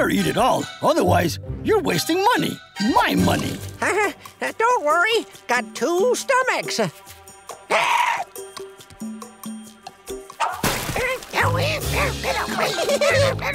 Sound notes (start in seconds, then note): 3.7 chuckles; 7.2 squawking; 11.3 muttering; 11.6 giggling